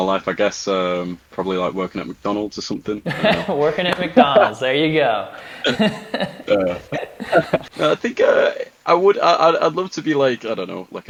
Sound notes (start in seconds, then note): 3.0 laughing